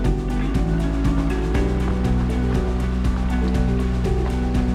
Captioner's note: water rushing